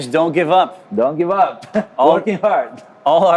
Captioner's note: chuckles